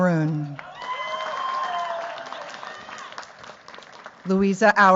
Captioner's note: cheers, applause